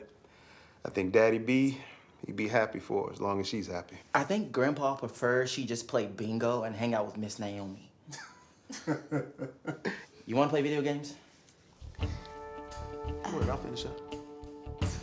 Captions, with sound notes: I think Daddy B, he'd be happy for as long as she's happy. - I think grandpa prefers she just play bingo and hang out with Miss Naomi. (all chuckling) You wanna play video games? - Go ahead, I'll finish up.